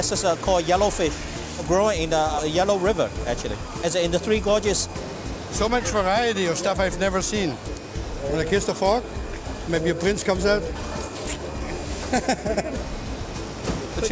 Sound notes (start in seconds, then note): 11.1 kissing noises; 12.0 laughing